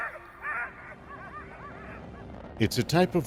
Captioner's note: dogs barking